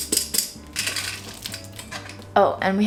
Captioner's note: millet rattling; pot tapping; peanuts rattling